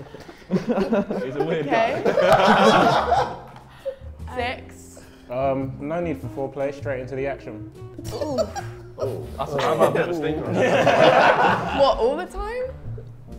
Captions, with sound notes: - He's a weird guy. - Okay. (everyone laughs) Six. - No need for foreplay, straight into the action. - Oh. (Sidemen laugh) - Well all the time?